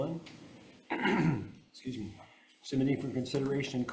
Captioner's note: clears throat